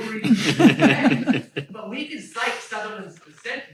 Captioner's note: laugh